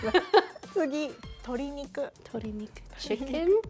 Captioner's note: laughter; speaking Japanese